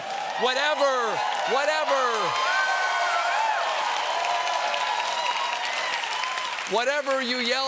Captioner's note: cheers and applause